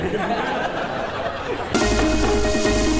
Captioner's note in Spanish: risas